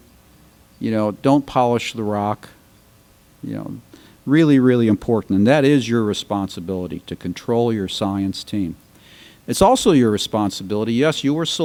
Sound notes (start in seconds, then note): none